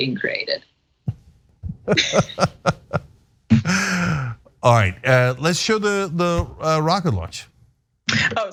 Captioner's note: laugh